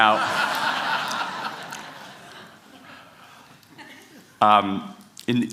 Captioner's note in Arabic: ضحك